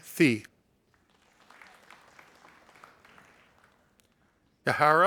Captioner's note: audience applauding